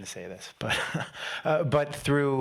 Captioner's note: chuckles